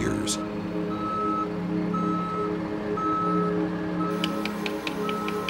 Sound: sounds of construction site

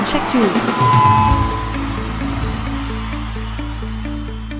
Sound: crowd cheering

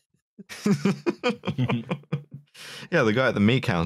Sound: laughs

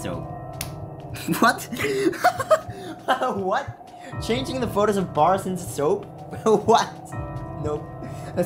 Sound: laughter; chuckle

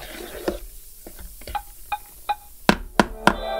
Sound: tap, Tap, Tap

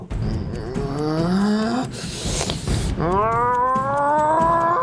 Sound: Chirik groaning

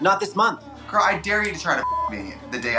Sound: beep

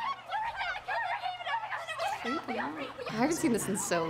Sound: girls clamoring

